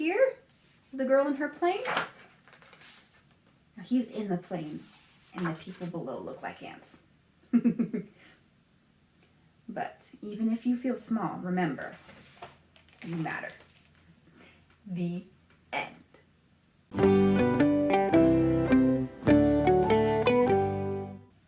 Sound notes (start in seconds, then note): 7.5 laughs; 16.9 transition music